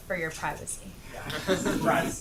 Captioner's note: laughter